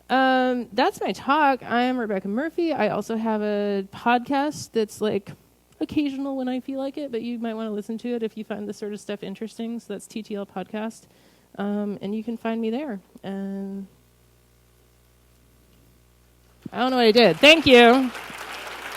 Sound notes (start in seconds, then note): 17.2 clapping